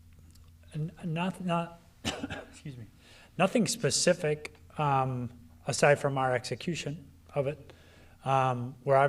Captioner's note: coughs